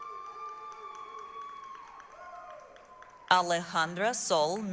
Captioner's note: applause, cheering